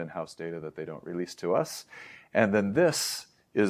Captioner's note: inhlaes